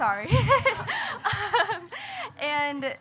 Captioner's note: laughing